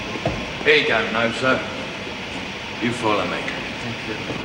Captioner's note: none